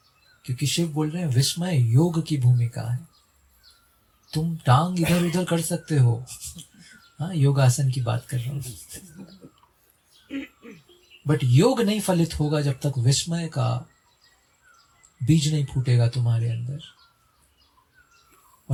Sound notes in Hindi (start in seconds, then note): 10.3 गला साफ़ करने की आवाज़